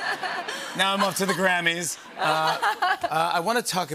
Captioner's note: laughter